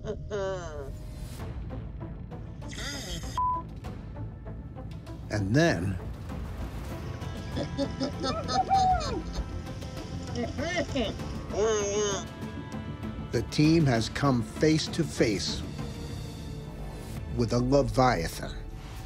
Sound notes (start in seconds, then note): 7.1 men laughing